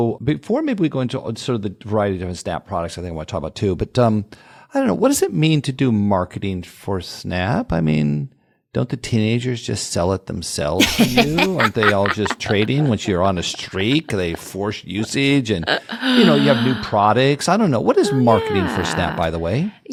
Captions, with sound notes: Before maybe we go into the variety of different Snap products, I think I want to talk about too, but I don't know, what does it mean to do marketing for Snap? Don't the teenagers just sell it themselves to you? [laugh] Aren't they all just trading once you're on a streak, they force usage. And you have new products. I don't know. What is marketing for Snap, by the way?